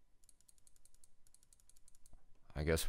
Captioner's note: mouse clicking